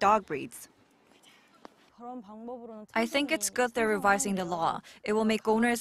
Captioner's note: Korean